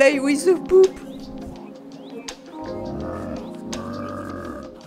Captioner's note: zombie noise in the distance